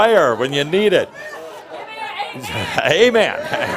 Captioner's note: someone shouts, “Give me an Amen!”